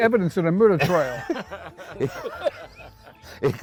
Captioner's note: laughs